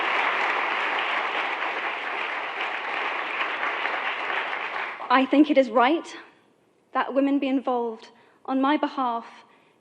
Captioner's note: cut off by applause; lots of clapping